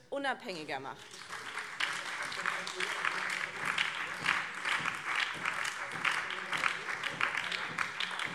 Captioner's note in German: Beifall